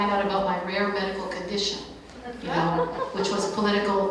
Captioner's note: light laughter